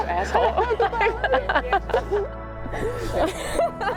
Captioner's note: both laughing/crying